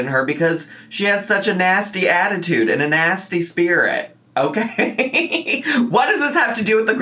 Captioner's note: laughs